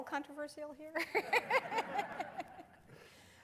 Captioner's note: laughter